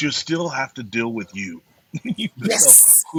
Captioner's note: laughs